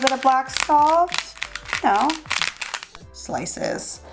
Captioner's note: grinding